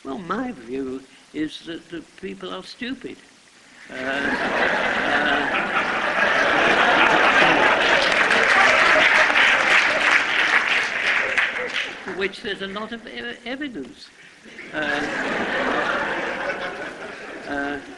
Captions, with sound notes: Well, my view is that people are stupid. [LAUGHTER] [APPLAUSE] Which there's a lot of evidence. [LAUGHTER]